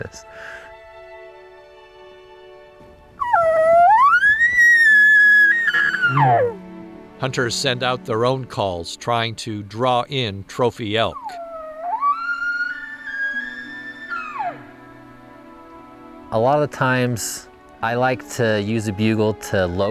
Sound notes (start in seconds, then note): 3.2 bugles for elk; 10.8 bugling sound